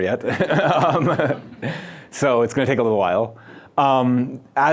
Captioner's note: laughs